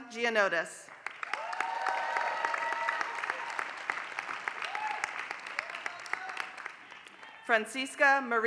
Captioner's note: applause